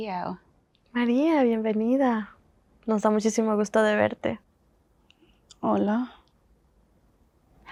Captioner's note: spanish